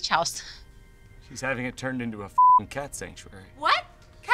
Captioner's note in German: Piep